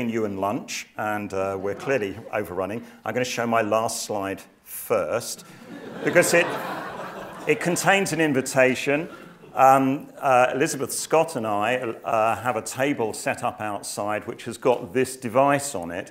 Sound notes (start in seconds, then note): 5.5 laugh